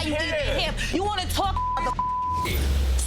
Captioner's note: beep